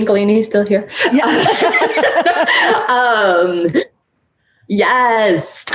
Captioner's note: laughing